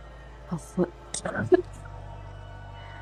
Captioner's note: coughing on her line